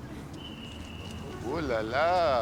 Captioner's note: police whistle whistling